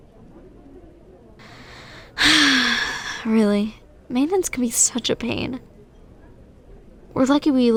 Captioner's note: sigh